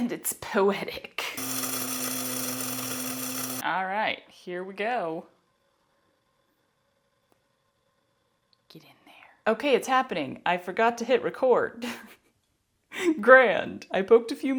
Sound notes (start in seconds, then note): 1.4 buzzing; 11.8 laughter